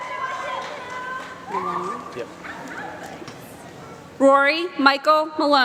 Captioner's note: applause